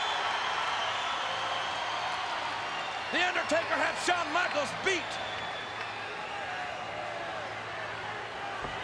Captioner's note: applause